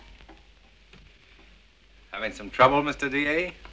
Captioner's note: none